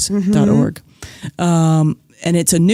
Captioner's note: none